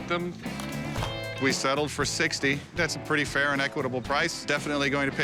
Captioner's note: none